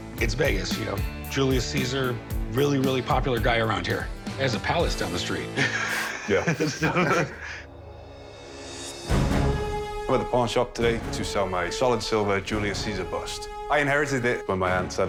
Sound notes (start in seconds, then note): 5.5 laughs